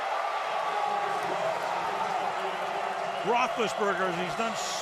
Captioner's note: cheering